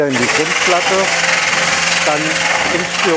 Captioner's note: loud drilling noise